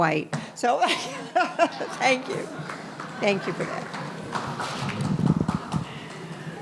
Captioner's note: laughing